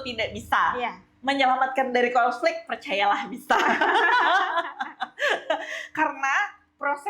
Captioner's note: laughs